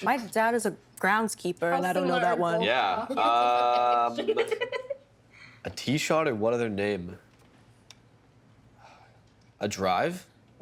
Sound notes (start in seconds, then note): 3.1 laughing